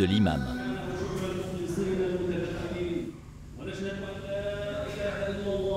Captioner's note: audio in Arabic